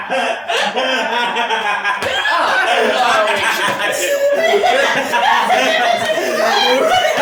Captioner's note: laughter